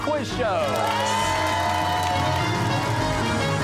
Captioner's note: cheers and applause